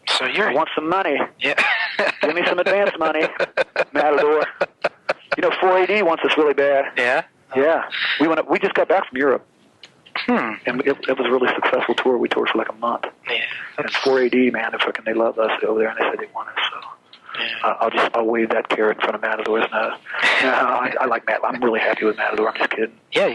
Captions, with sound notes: I want some money. Give me some advance money, Matador. (laughs) You know 4AD wants us really bad. - Yeah? - Yeah. We just got back from Europe. It was a really successful tour. We toured for like a month. And 4AD, man, fucking, they love us over there, and they say they want us. So I'll wave that carrot in front of Matador's nose (laughs). I'm really happy with Matador, I'm just kidding.